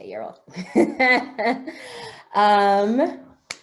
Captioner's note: laughs